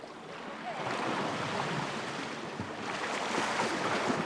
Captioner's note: water splashing